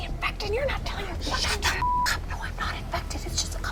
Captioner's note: beep